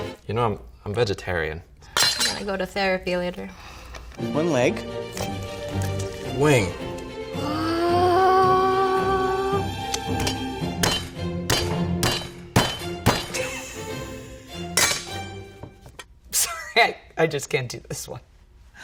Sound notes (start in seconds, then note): 11.5 cleaver tings against bone; 13.3 woman laughing; 17.0 laughs